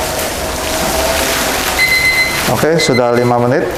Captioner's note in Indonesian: suara beep